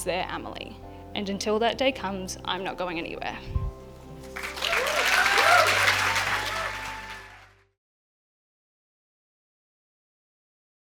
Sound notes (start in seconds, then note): 7.1 cheers and applause